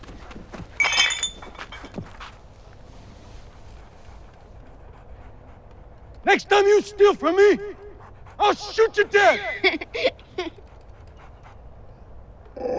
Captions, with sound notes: (glass clinking) Next time you steal from me, I'll shoot you dead! (Jo laughs)